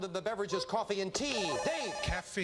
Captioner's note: buzzer